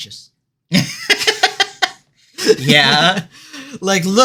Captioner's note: laughter